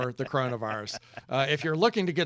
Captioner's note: laughing